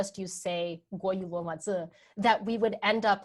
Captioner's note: speaking in a foreign language